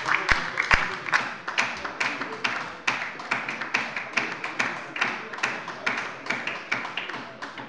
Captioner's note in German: Beifall bei der LINKEN